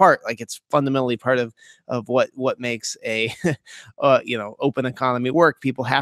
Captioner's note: laughs